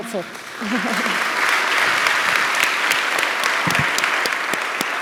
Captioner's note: audience applauding